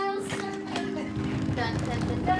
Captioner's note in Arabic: تدحرج حقيبة